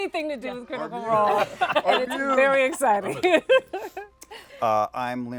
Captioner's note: laughs